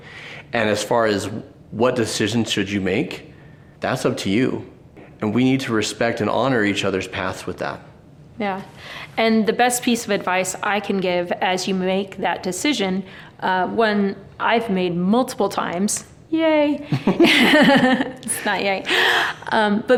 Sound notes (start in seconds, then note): 16.9 both laughing amusingly